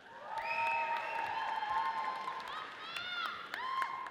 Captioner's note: audience cheers